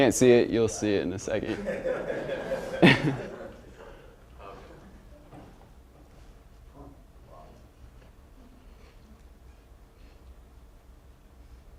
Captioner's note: laughter